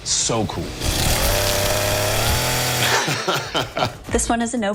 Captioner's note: chainsaw buzzing